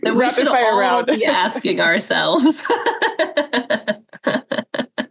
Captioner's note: laughs